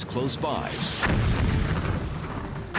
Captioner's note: explosion